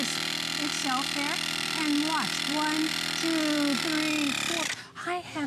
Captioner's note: counting